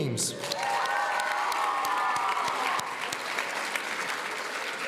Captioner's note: audience cheering